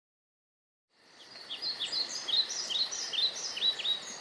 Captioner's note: birds chirping